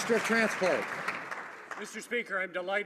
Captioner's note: some Applause